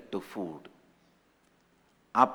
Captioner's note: hindi